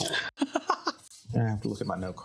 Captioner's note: laughing